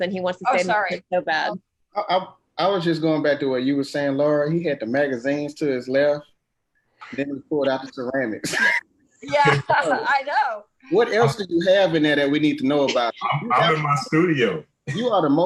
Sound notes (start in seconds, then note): 9.3 laughter